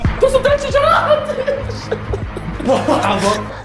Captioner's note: laughs